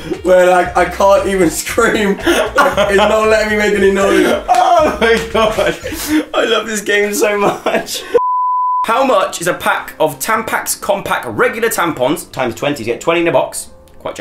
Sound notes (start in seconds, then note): 4.8 laughing; 8.2 beep